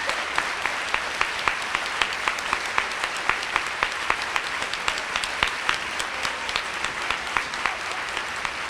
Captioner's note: applause